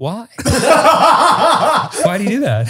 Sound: all laughing

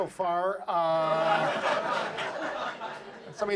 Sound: audience laughs

